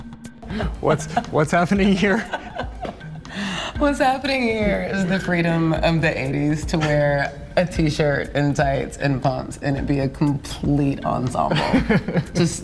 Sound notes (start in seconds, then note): 0.6 chuckling